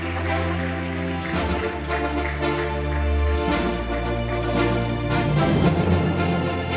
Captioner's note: appause